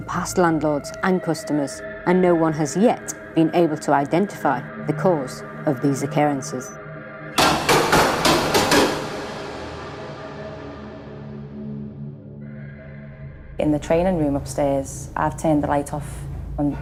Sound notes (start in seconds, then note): 7.4 metal clanging; 10.1 suspenseful eerie music